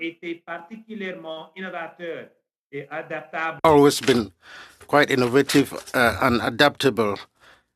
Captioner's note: speaking French